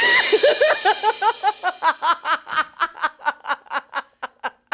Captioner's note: yelling; cymbal crashing; laughing